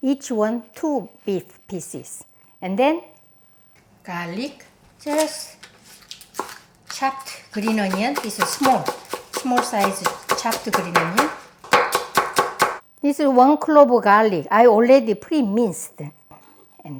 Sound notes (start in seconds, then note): 4.3 knife slicing; 11.9 knife thudding